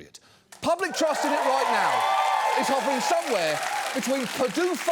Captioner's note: audience cheers